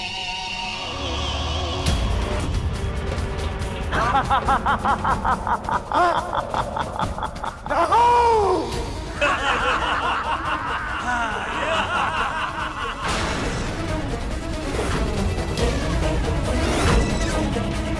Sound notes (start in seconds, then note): 3.7 laughs loudly; 8.9 evil laughter; 10.8 laughs loudly; 12.8 tense music playing